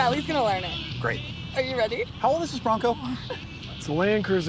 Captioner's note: laughs